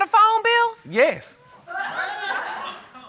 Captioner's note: audience exclaims